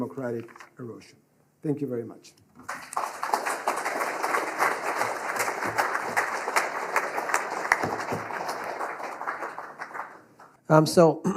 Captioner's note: applause